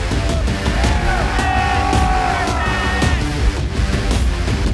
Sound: cheering

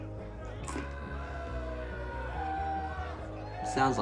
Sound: man screaming

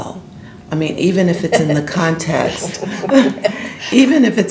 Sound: laughs; panel laughing

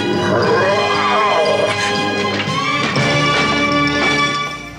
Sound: Steeljaw growls

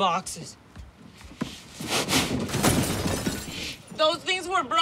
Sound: glass shattering

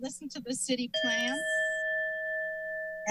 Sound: alarm sound

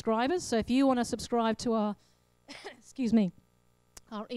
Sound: coughs

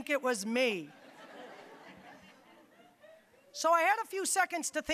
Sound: audience laughing

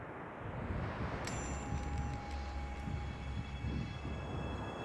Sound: jewelry chimes

